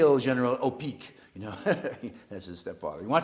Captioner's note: laugh